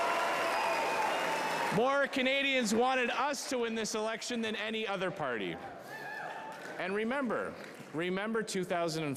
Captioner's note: cheering